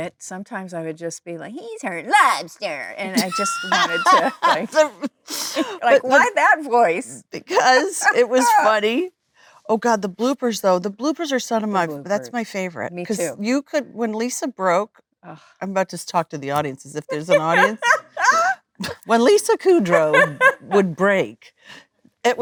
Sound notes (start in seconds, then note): 17.0 Lisa laughing